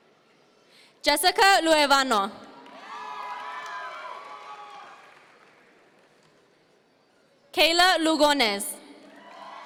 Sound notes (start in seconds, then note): 2.7 audience members cheer; 9.2 audience members cheer